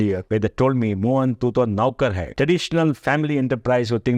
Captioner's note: speaks in Hindi